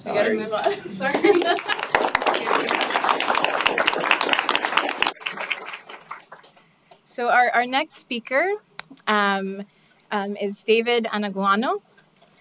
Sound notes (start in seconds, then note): 1.1 applause